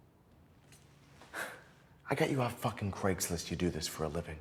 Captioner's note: sighs